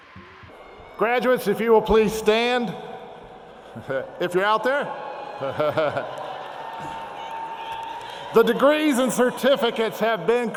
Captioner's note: laughs